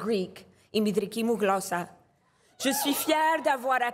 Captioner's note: speaking in Greek